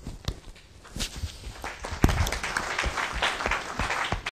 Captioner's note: applause